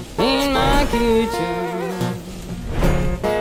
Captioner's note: food sizzling